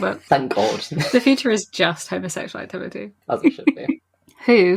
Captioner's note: laughs